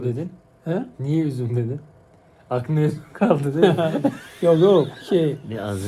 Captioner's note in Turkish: kahkaha